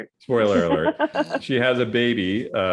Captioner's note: laughs